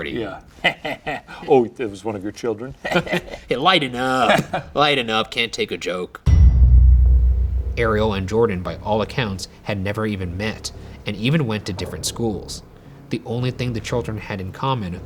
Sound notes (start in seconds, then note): 0.6 laughs; 3.1 laughs; 6.2 dramatic whooshing